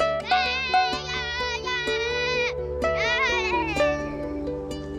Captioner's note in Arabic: يضحك ويصرخ